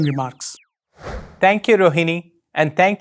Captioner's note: logo whooshing